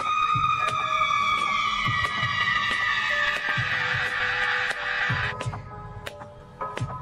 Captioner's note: clap